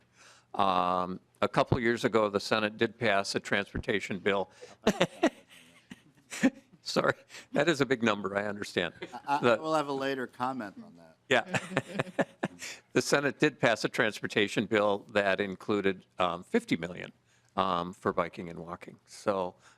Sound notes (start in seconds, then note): 11.4 laughing